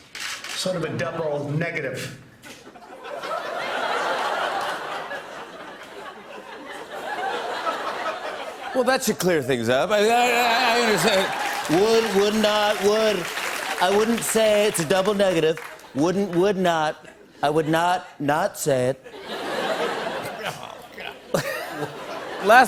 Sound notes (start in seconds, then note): 2.5 laughter; 19.0 laughter; 19.0 laughs